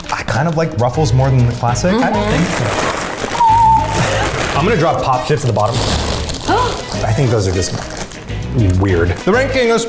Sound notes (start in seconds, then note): 3.6 bags rustling; 6.4 gasps